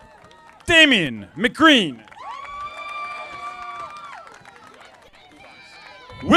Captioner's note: audience applauding